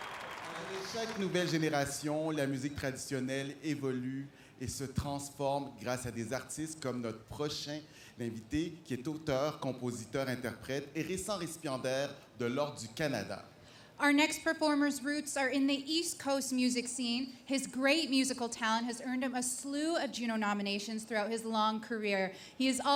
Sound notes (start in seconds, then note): 0.0 applause; 4.7 speaking french